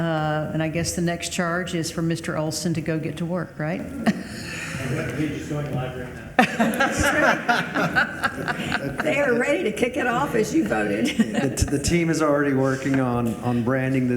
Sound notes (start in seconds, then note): 4.0 Madam Chair laughs; 6.3 all laugh